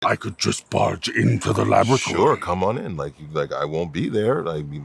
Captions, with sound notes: (IMITATING PROXIMUS) I could just barge into the laboratory. Sure, come on in. Like, I won't be there.